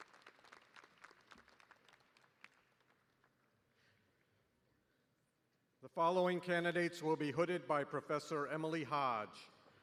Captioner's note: cheers and applause